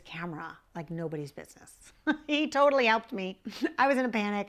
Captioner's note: laughs